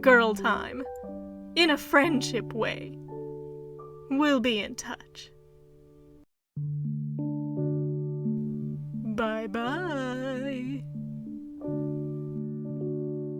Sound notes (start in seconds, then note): 8.2 sing-song